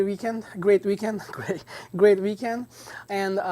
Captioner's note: laughs